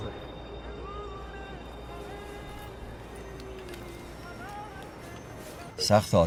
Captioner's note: radio is playing